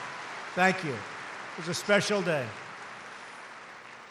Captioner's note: applause